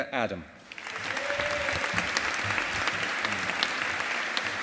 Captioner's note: audience applauding